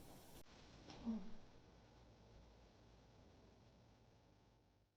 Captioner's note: Leona moans